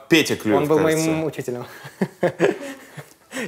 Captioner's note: laughs